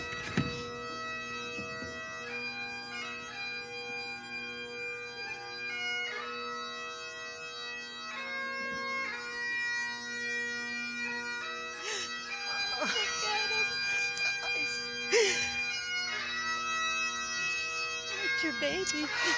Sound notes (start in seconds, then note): 12.5 crying; 16.1 bagpipes